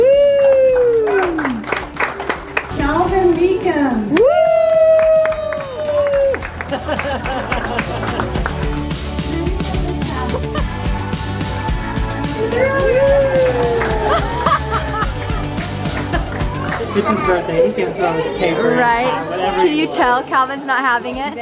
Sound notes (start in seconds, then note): 0.1 applauds; 4.6 applauds; 6.3 laughs